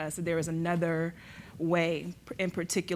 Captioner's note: none